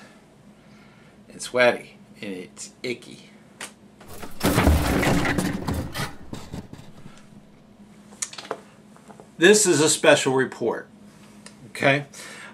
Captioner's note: crash